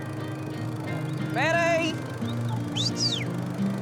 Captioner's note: whistles